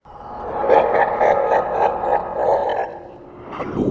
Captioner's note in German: Geistergelächter